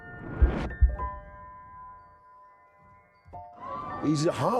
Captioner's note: wind rushes; crowd cheering